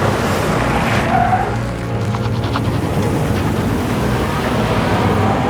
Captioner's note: tires screeching